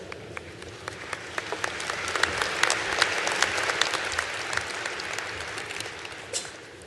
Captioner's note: applause